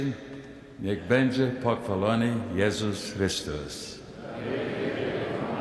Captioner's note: speaking in Polish